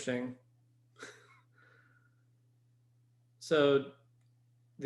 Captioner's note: chuckles